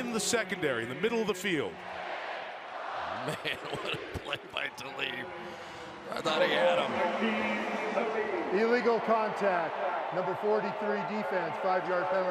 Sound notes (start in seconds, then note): 3.0 laughing